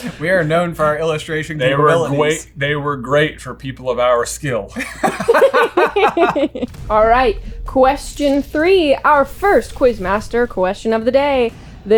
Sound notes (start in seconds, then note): 4.7 laughter